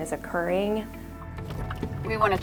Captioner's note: car blinker flickering; driving noises